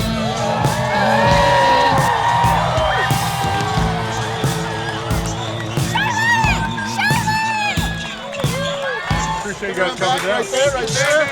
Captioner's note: cheering